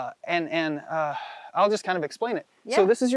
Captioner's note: outhales loudly